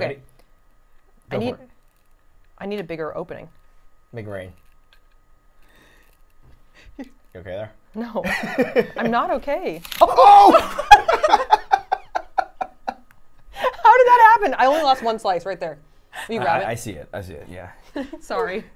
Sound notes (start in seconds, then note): 8.3 laughs; 10.2 laugh